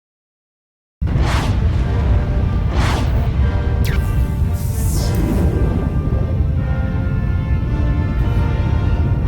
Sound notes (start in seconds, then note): 1.0 spaceships whooshing; 4.2 graphics buzzing; 6.3 powerful music